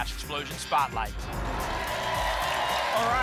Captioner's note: applause and cheering